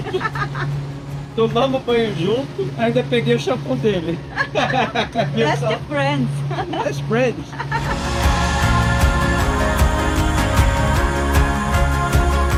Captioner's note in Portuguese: risadas